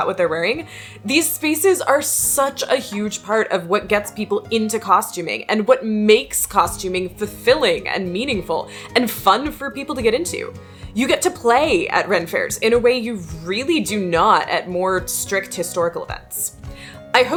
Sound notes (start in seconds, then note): none